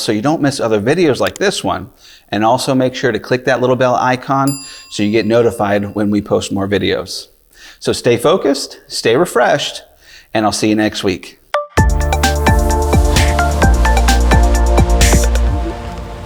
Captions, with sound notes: so you don't miss other videos like this one, and also make sure to click that little bell icon, (bell rings) So you get notified when we post more videos. So stay focused, stay refreshed, and I'll see you next week. (upbeat music)